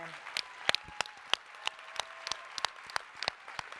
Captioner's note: applause, cheering